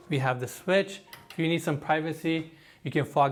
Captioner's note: switch clicks